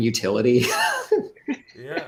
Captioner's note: laughs